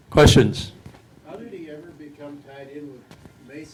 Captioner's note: voiceover